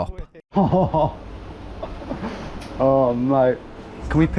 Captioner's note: chuckles